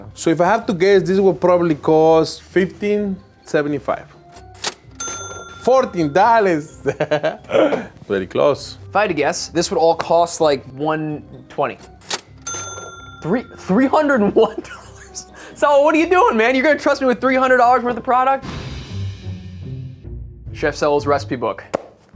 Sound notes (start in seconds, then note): 4.3 cash register dings; 6.8 laughs; 11.8 cash register dings; 14.2 chuckles; 18.9 gentle music